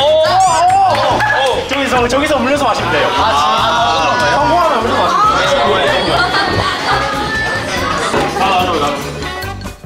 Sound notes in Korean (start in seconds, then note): 4.9 꼴깍꼴깍